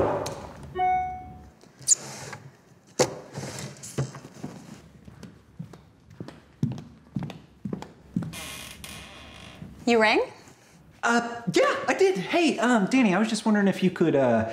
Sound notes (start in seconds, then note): 0.7 e-mail notification chimes; 2.6 shuffling and footsteps; 8.3 door creaks